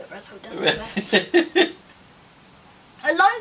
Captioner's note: laughs